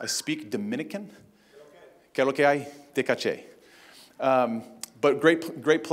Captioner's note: non-english speech